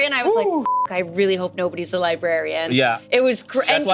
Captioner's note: beep